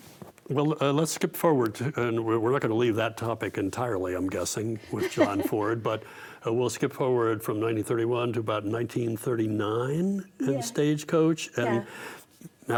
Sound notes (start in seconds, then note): 4.9 laughs